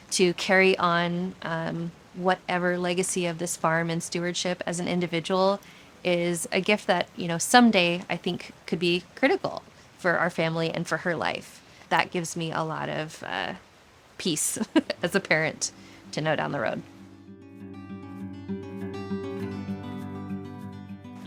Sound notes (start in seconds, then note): 14.6 chuckles; 16.8 tender music break